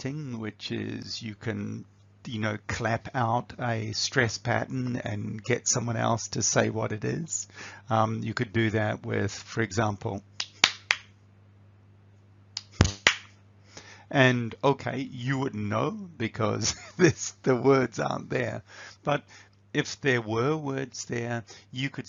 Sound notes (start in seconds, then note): 10.4 claps